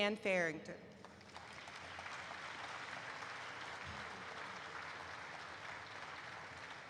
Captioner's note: applause erupts